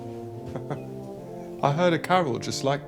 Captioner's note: Nikolai chuckles